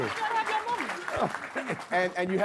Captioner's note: Harry laughs